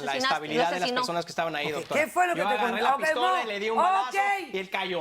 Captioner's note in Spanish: Hablan al unísono